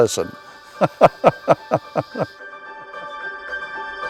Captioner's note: laughs